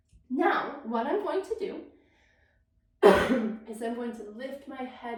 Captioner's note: coughs